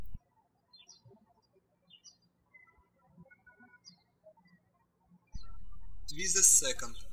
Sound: birds chirping

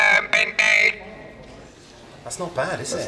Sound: Gethin’s voice comes through the Dalek remodulator

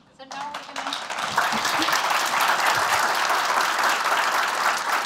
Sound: applause

